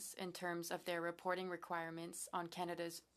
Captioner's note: speaking french